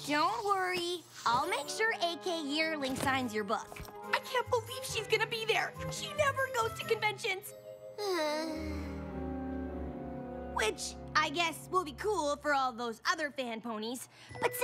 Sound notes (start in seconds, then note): 8.0 sighs